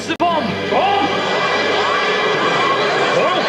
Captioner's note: audience commotion